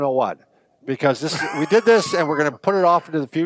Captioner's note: laughing